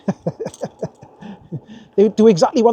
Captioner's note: laughs